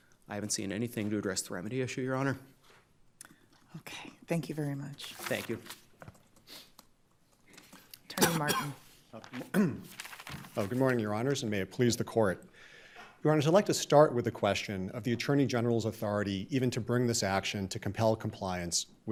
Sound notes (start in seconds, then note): 9.4 clears throat